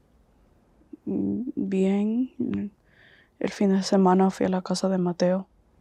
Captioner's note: Spanish